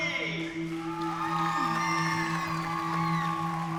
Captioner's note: cheering